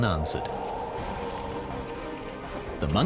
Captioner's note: wind howling